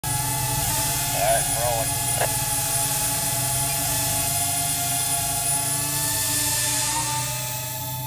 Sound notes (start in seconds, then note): 0.2 drone buzzing